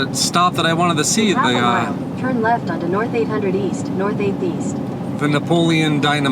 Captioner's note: Google Maps audio directions